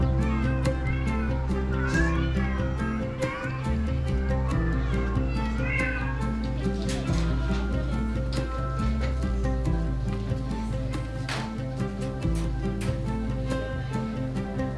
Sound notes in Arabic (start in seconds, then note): 0.1 تستمر الموسيقى المشرقة; 4.8 مواء القطط; 12.8 تستمر الموسيقى المشرقة